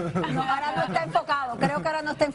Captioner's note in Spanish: risas